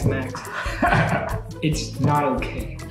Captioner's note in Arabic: الكل يضحك